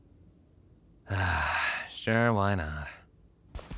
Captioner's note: sighs